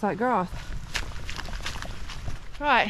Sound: squelchy wobbly noise

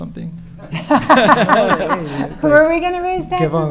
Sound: audience laughing

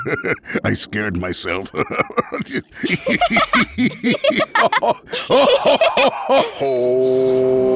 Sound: laughing

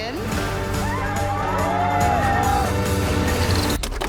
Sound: all cheering

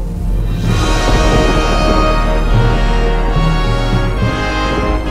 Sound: thunder & Sci-Fi Whoosh

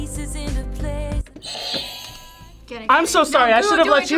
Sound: buzzer rings

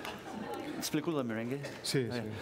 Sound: speaking catalan

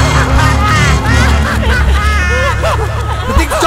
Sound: laughing voices

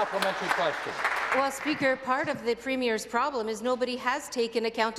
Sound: some Applause

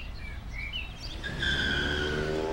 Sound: car tires screech

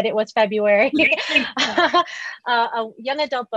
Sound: laughs

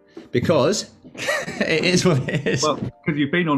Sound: laughs

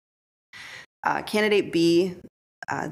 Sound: none

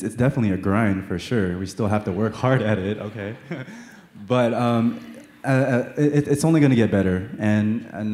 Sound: laughter

